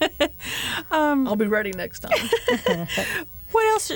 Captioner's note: laughter